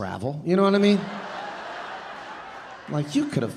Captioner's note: audience laughing